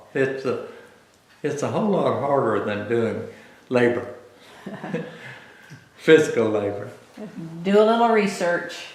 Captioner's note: laughs